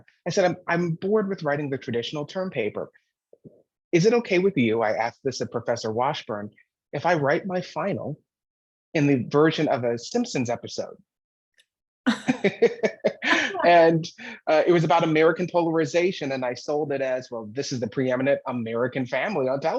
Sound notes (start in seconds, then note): 12.0 laughter